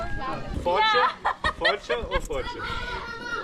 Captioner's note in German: gelächter